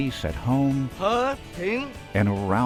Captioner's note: speaking in foreign language